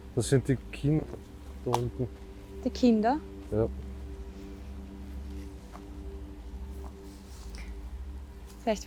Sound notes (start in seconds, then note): 3.7 wind in the background